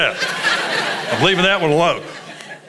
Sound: congregation laughs

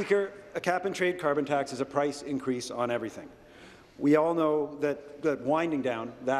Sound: applause

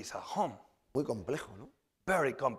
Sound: speaking spanish

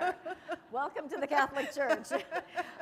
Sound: laughter

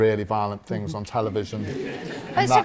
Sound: audience laughs

